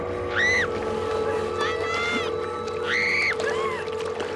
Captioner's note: screaming